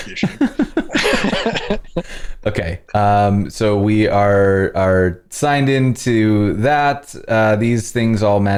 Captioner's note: laughter